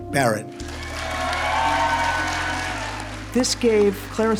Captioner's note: audience cheers and applauds